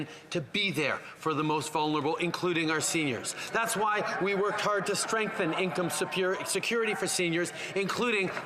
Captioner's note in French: voix de l'interprète